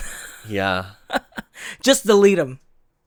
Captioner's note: laughs